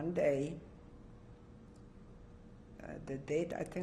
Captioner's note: pauses for 3 seconds